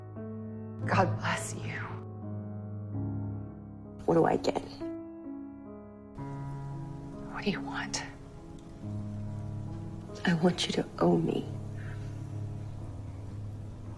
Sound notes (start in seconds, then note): 4.0 voiceover